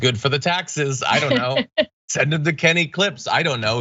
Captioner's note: laugh